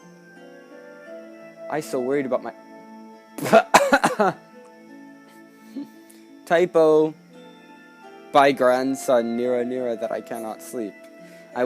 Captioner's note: laughter